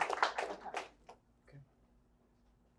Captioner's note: applause